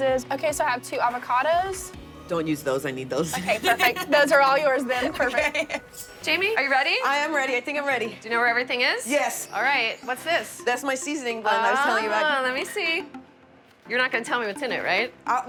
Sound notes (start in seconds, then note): 3.3 laughs